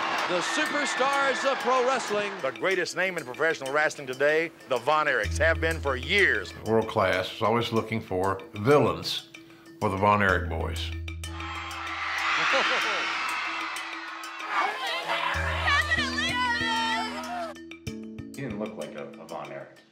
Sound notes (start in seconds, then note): 11.3 crowd screams and cheers; 14.5 girls crying, shouting